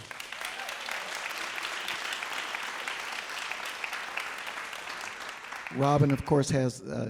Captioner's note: applause